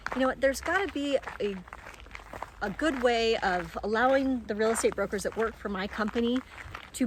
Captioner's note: none